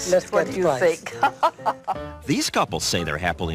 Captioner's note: laugh